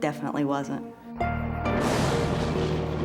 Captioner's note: thunder